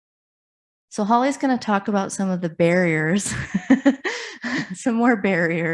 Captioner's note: laughs